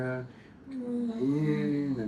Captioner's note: moaning